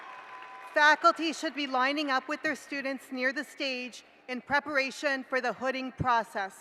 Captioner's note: cheering